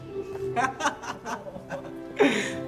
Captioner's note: laugh